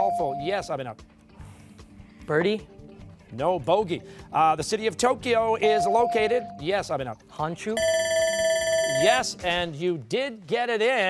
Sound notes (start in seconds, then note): 7.8 bell ringing